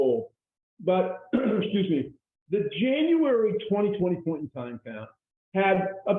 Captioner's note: clearing throat